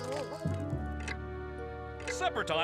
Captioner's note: clock ticks